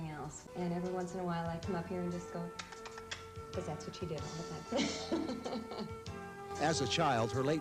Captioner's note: laughs